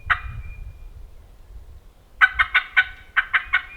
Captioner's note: turkey calls